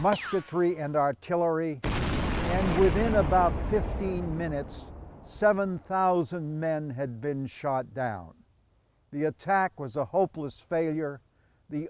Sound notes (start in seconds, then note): 1.8 bombs exploding